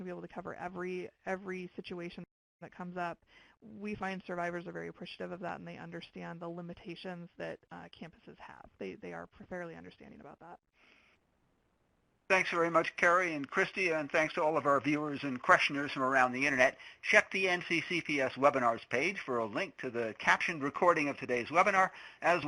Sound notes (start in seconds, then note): 12.3 voiceover